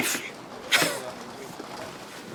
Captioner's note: scoffs